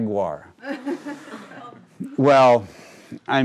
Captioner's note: crowd laughing